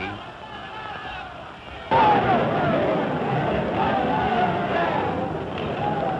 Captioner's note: shouting